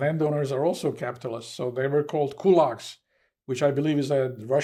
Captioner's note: russian